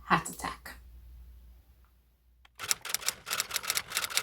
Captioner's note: typewriter sound